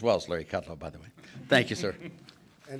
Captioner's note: laughter